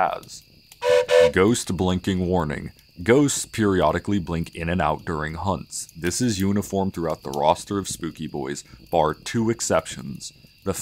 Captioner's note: train Whistle